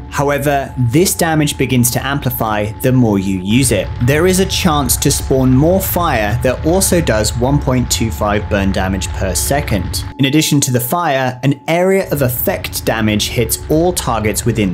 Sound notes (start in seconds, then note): 4.6 flames roar; 12.1 fire roars